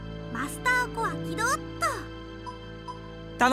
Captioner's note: none